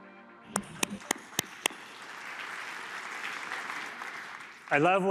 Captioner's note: applause